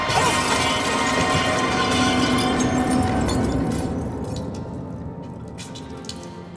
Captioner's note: bottles breaking; crashing